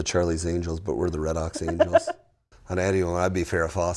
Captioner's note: laughing